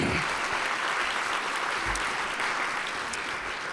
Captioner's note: applause